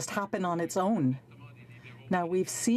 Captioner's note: speaking french